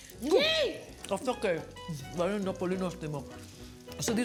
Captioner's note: speaking in greek